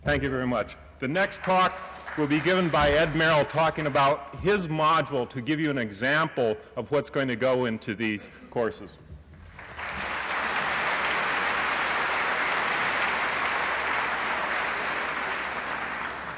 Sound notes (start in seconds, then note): 9.4 applause